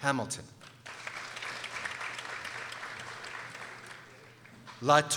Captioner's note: people applauding